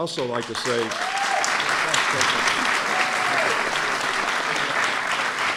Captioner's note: applause